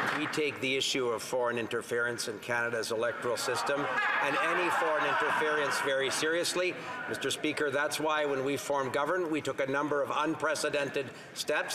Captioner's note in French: voix de l'interprète